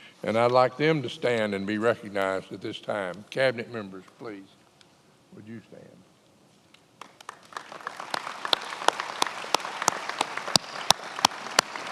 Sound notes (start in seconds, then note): 7.0 attendees applauding